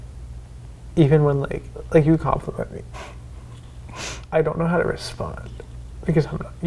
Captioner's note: none